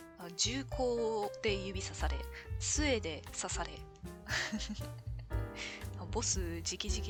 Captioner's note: laughs